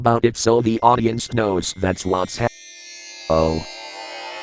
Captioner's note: teleporter sound effect